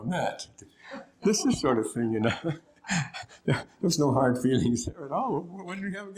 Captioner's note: laughter